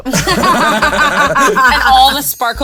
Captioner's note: players laughing